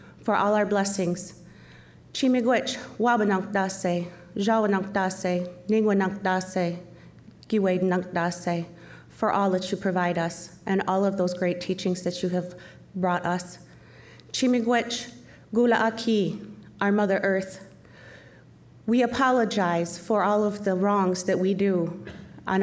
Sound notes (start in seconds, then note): 2.2 speaking Chippewa; 14.3 speaking Chippewa